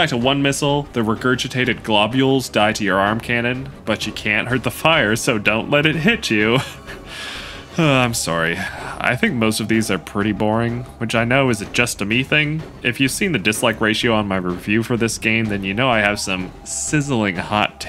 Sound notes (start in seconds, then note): 6.9 sigh